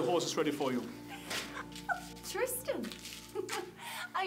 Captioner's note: chuckling